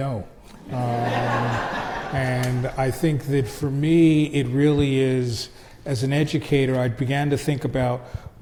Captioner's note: crowd laughs